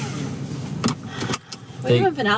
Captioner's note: seatbelt clicking